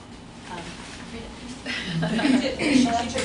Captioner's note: laughter